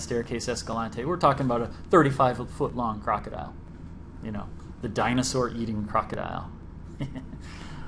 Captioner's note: laughs